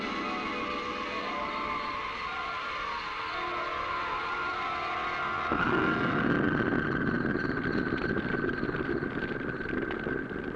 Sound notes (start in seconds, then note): 0.0 tense instrumental music continues; 5.9 explosion